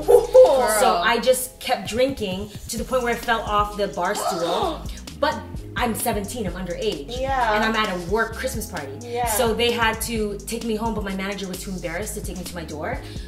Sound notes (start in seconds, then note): 0.0 laughs; 4.2 gasps